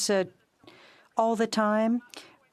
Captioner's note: speaking in French